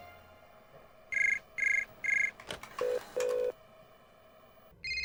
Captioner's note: phone ringing